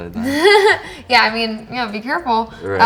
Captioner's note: laughing